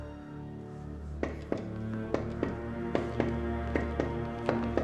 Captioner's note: tapping